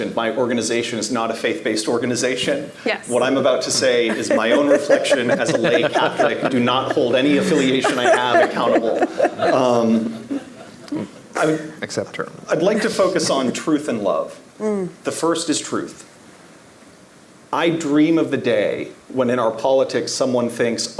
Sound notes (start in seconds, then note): 5.9 group laughing